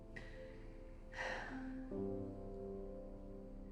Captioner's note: sigh